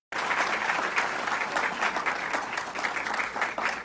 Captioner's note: audience clapping